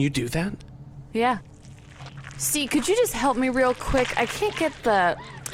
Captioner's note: squelching sounds